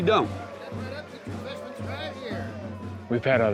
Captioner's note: distant cheering